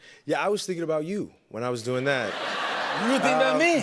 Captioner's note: laughter